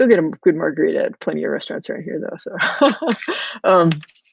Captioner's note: laughs